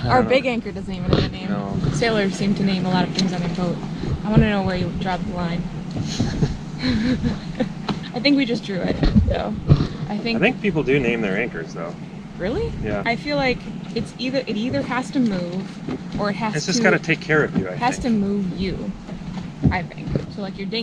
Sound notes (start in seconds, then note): 6.8 laughs